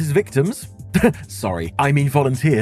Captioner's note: laughs